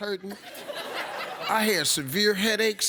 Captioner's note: audience laughs